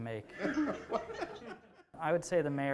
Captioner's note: laughter